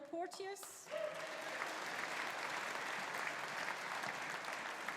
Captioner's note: audience applauding